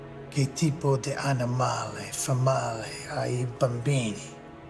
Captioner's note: Carmine speaking in Italian